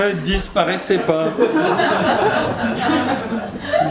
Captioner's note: laughter